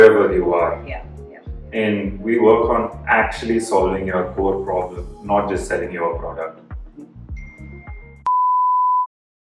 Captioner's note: ping